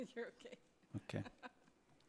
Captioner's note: laughs